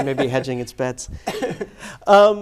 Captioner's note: laughs